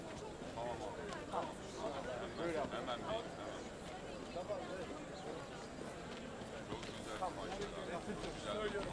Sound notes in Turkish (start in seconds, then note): 0.8 Ayak sesi